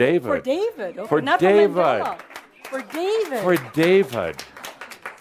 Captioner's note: some claps